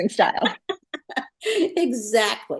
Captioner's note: laughter